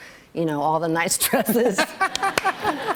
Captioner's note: laughter